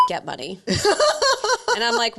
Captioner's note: laughing